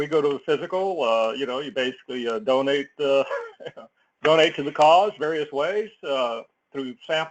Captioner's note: laugh